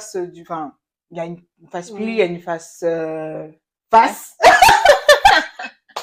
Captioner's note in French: rires